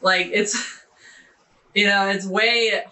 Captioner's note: laughing